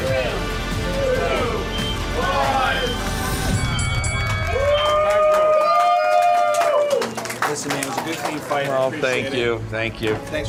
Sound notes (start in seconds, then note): 2.7 bell ringing; 3.5 spectators cheering